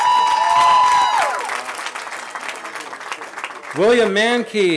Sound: cheering

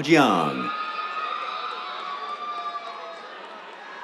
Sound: cheers, applause

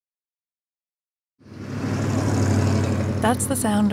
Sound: sound of motor

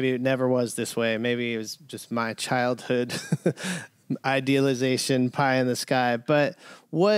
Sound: laughter

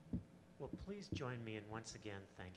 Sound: voiceover

